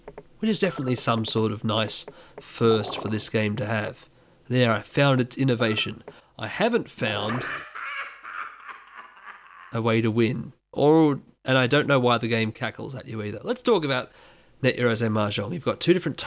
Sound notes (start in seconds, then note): 7.2 in-game, mocking laughter